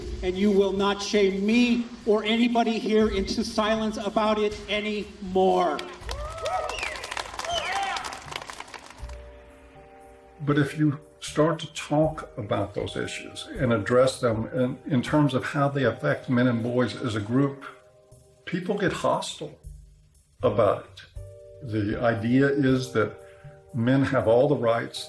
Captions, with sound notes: AND YOU WILL NOT SHAME ME OR ANYBODY HERE INTO SILENCE ABOUT IT ANYMORE. [CHEERS] BUT IF YOU START TO TALK ABOUT THOSE ISSUES AND ADDRESS THEM IN TERMS OF HOW THEY AFFECT MEN AND BOYS AS A GROUP, PEOPLE GET HOSTILE ABOUT IT. THE IDEA IS THAT MEN HAVE ALL THE RIGHTS.